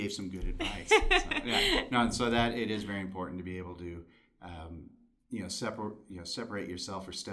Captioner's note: laughter